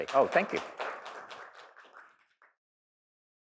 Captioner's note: applause